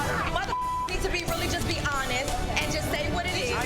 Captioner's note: beep